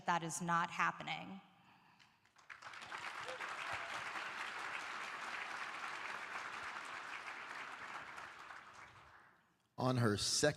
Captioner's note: applause